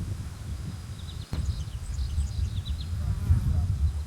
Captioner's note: birds chirping